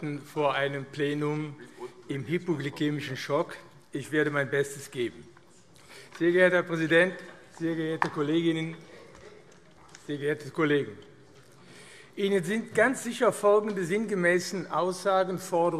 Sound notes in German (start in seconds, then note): none